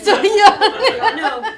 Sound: laughter

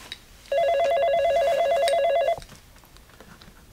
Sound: phone rings

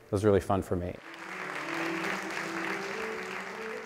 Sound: clapping

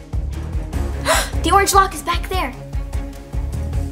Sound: gasp

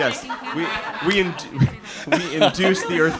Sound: all laughing

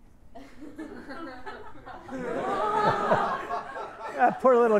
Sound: everyone laughs

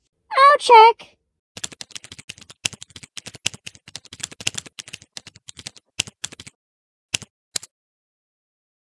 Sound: typing

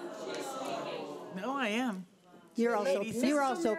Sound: crowd booing

